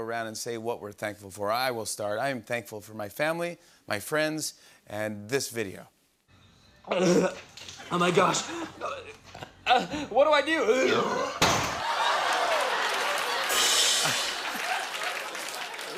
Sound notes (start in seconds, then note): 11.0 burps; 11.4 laughter